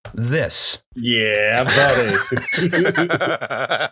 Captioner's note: laughter